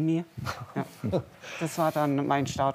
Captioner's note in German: Schmunzeln